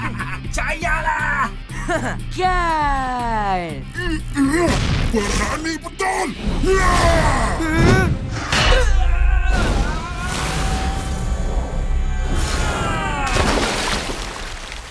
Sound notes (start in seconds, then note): 9.0 heavy thunk; 10.3 Amato and MechaBot screaming